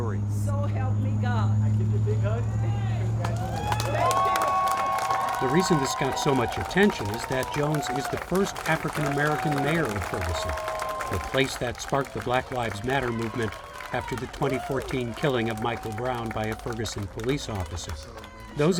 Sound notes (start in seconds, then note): 3.4 people cheering